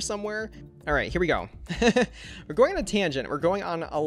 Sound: laughs

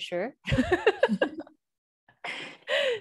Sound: laughs

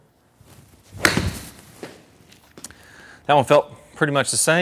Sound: ball thwacks

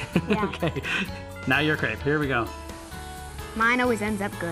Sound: laughter

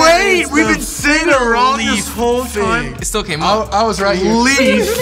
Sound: both yelling at once

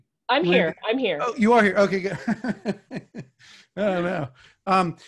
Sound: laughs

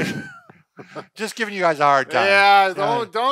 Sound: both laugh

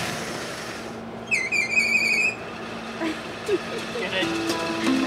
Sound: cart squeals

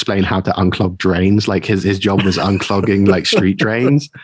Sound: laughing

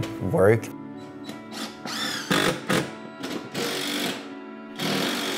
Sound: drill bit whirring

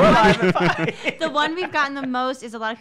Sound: hosts laugh

